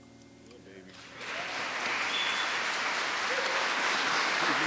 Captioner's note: audience clapping